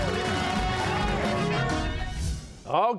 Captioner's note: cheers and applause